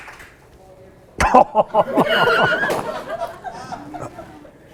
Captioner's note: laughs